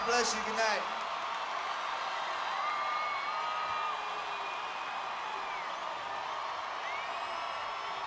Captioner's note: audience cheering